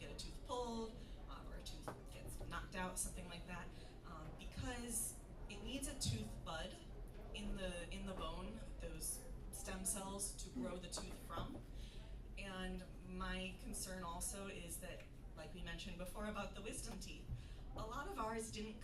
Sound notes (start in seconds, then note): none